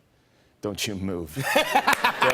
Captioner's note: laughter